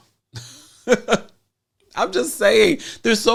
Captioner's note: laughs